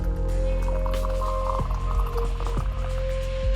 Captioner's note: water splashes